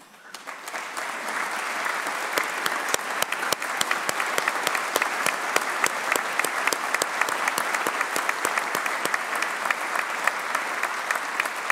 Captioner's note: applause